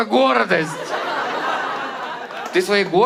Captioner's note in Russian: зал смеётся